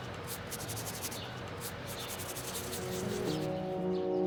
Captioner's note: birds chirping